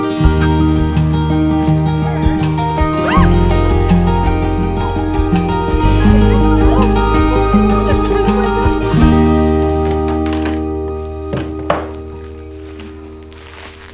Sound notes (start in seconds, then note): 0.1 laughing; 2.9 squeals; 4.6 bright music